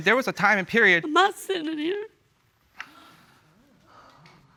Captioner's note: sobbing